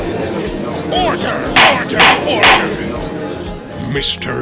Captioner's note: gallery chattering; gavel slams!